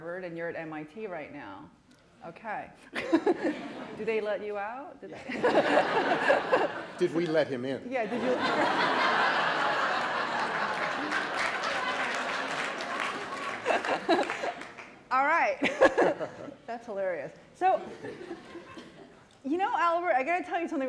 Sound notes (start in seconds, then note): 5.2 laughter; 11.1 applause